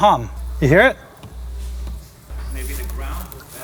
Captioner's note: electric humming